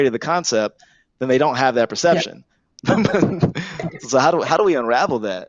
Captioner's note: laughs